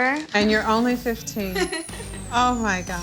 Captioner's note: chuckles